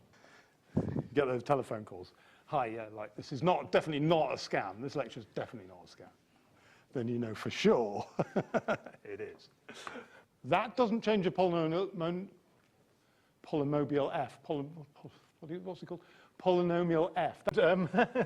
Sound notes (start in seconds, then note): 14.9 sigh; 17.6 knowing laughter